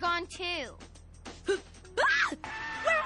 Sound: scream

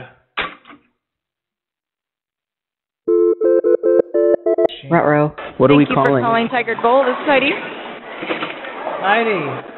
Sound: phone ringing

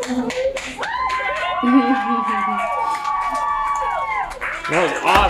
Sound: cheering

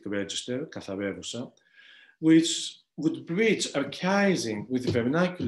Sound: speaking greek

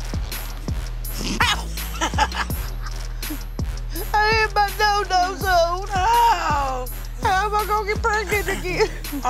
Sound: laughing

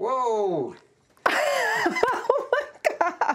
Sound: laughs

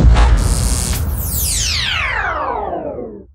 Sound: electrical charge sound

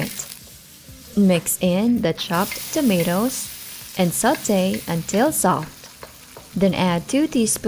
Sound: sizzling, plate thuds; sizzling, Music

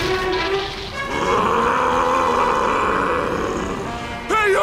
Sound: roaring

